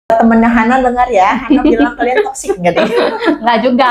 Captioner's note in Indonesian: tertawa